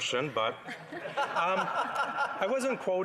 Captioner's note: laughter